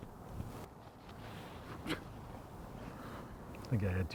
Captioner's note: Mercer scoffs